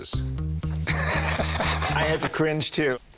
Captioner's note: Rick laughing